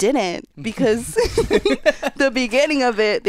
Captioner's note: all laughing